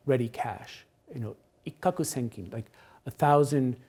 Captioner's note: speaks Japanese